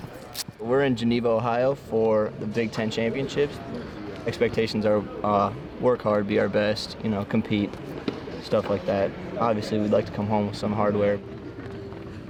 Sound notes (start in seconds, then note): 0.2 tape tearing; 11.2 feet pattering